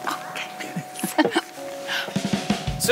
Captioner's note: ladies giggling; upbeat music